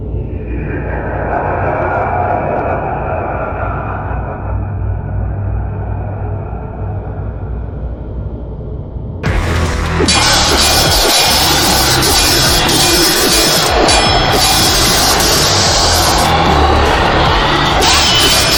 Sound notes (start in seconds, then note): 9.2 electricity crackling; 10.1 swords clanging